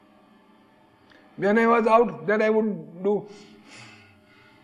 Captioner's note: breathe heavily